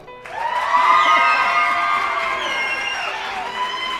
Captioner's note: applause